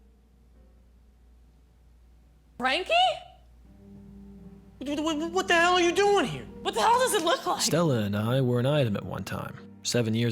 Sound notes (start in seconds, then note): 4.3 stammers